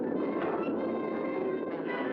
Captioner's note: dramatic music; crack